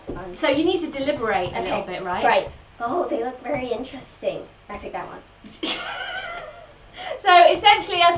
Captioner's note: laughs